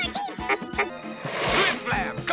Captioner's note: honk honk